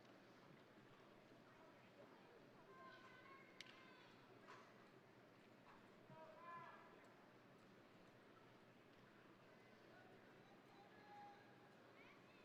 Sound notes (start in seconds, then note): none